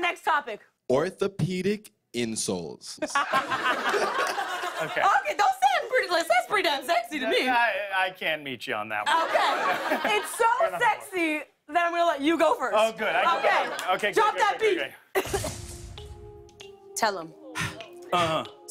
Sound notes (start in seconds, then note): 3.0 laughter